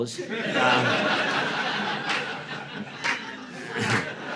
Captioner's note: audience laughing